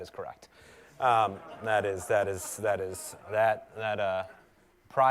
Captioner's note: laugh